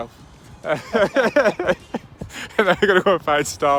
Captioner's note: laughter